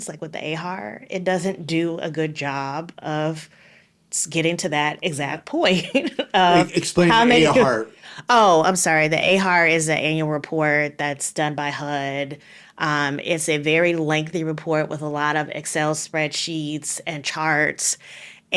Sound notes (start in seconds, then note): 5.8 laughing